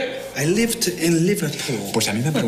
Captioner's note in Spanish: habla en inglés